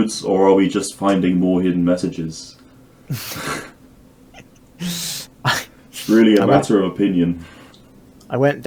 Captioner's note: both chuckle